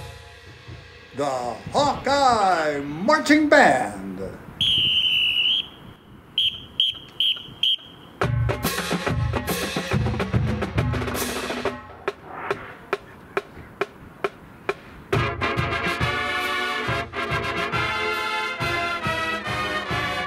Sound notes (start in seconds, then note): 4.6 whistle blowing; 8.0 drumline; 14.8 marching band music playing - no lyrics